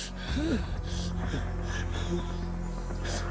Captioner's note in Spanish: Gemidos